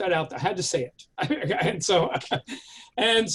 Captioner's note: chuckles